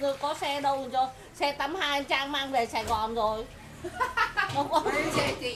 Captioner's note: laugh